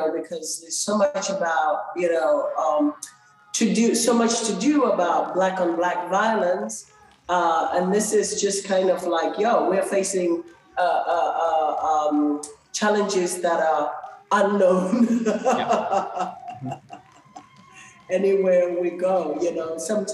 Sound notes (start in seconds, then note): 14.7 laughs